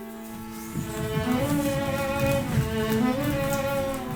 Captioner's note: feet thudding